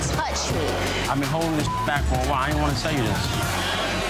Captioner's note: beep